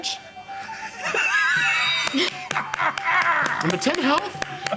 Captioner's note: laughing